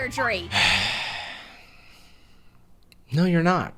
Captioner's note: sighs